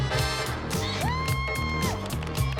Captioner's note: moms cheering